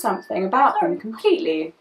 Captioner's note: phone pings